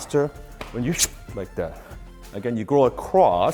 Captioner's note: whoosh